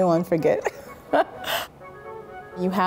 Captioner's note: chuckle